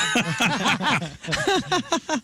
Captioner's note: laughing